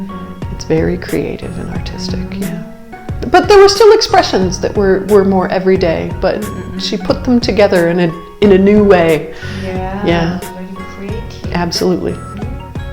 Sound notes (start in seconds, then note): 7.5 English